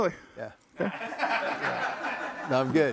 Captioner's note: audience laughing